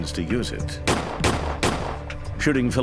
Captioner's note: gunshots